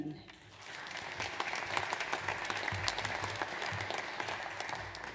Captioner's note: audience applauds